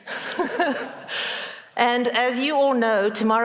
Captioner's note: laughs